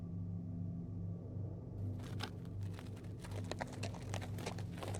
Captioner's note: horse clopping